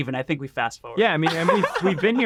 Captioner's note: laughs